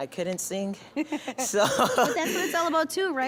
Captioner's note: laughing